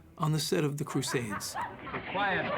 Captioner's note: laughter